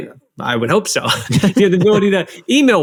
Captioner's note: laughs